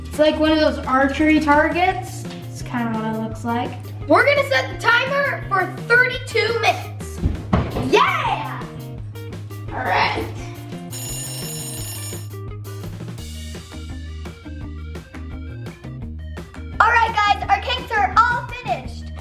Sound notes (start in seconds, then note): 10.9 ringing; 12.5 upbeat music